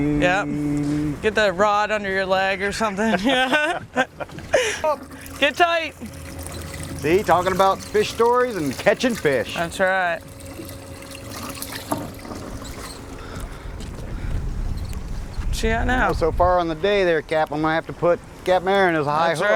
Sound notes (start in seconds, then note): 3.0 laughing; 11.6 reel squeaking